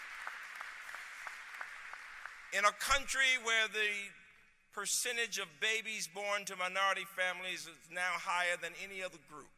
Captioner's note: applause